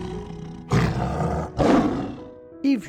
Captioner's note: roaring